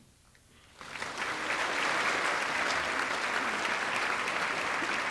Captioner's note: audience clapping